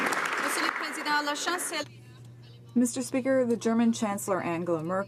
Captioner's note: some Applause